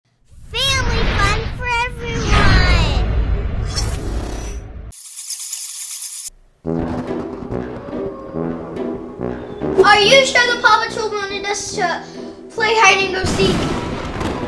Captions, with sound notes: - Family fun for everyone. (bats flying) (spooky music) - Are you sure the Paw Patrols wanted us to play hide and go seek here?